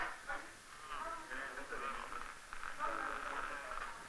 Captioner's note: nurses' voices